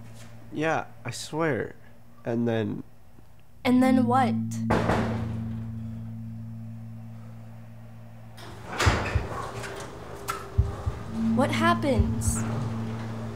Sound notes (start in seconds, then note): 4.5 pounding on garage door; 8.3 garage door opening